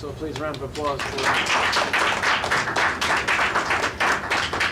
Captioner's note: audience applauds